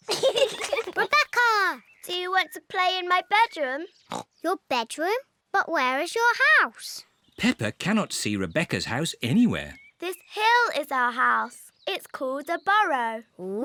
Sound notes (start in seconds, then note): 0.0 peppa and george giggling; 4.1 snorts